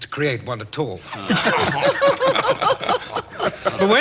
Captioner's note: laughter